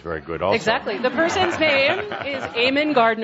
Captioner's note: laughter